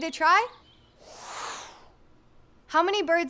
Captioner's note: air whooshing